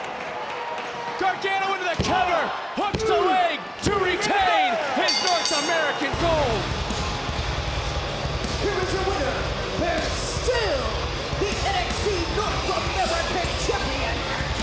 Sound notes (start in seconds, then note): 5.0 bell dinging; 7.2 rock music